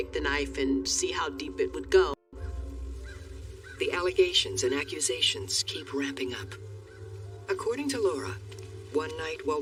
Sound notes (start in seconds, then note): 2.4 scoffs